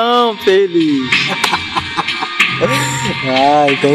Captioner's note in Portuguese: risos